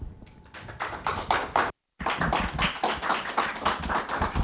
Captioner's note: audience applauding